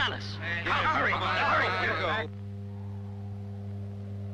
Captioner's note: men shouting